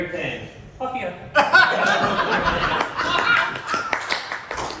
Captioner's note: applause